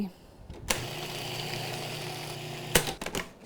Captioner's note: mixer whirring